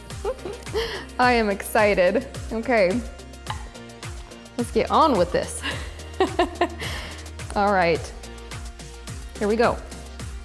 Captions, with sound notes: (giggling) I am excited. Okay Let's get on with this. (laughing) Alright. Here we go.